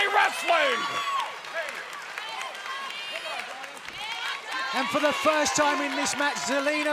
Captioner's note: crowd chatter